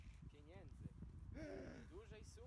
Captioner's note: gasp